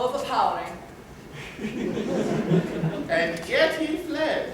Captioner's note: laughter